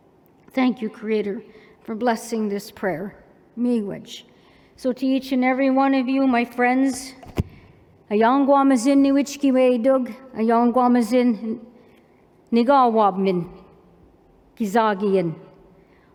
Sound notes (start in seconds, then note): 3.4 non-english; 8.0 non-english speech